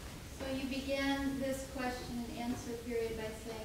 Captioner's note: woman's Voice